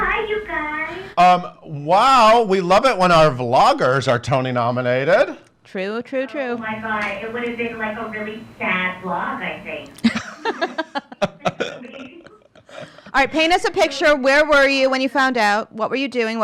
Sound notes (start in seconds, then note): 10.0 laughs